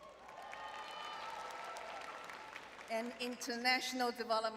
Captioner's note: audience cheering